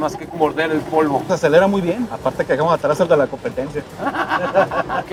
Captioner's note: laughter